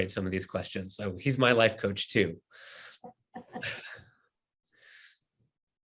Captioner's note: chuckles